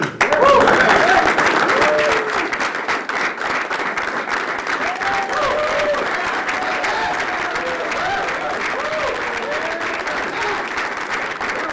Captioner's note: applause